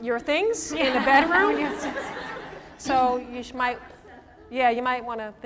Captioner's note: laughter